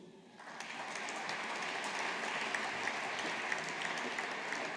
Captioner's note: audience applauding